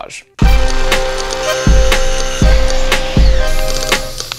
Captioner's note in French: vrombissement d'outils; sifflement de bombe aérosol